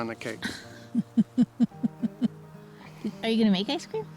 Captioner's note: laughs